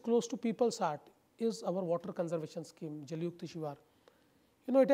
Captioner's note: foreign language